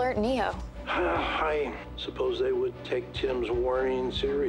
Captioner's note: grunts